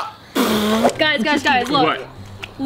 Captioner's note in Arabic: يخرج لسانه وينفخ